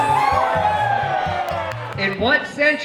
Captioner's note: patrons cheering